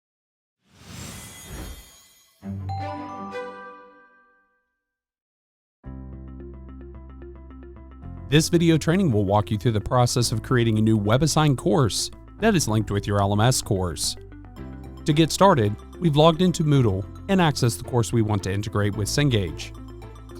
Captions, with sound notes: (logo swooshes) (logo chimes) (bright music) This video training will walk you through the process of creating a new WebAssign course that is linked with your LMS course. To get started, we've logged in to Moodle and accessed the course we want to integrate with Cengage.